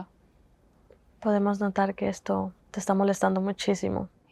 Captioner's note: Spanish